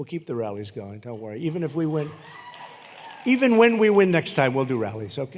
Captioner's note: applause